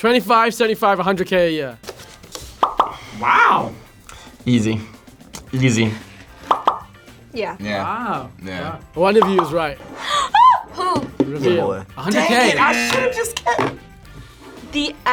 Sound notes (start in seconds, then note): 10.2 screams